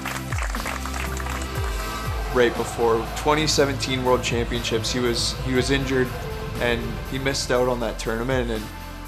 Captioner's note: applause